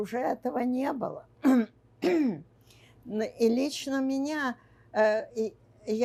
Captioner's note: clears throat